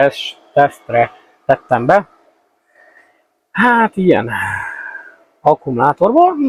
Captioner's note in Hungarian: sóhajtás